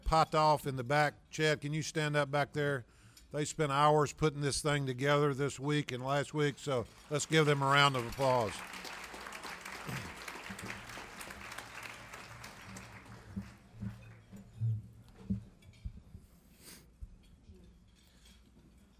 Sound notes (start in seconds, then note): 8.6 clapping